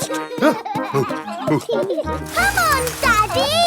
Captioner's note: peppa and george laughing; panting